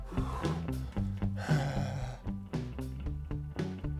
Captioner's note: hand tapping; sighing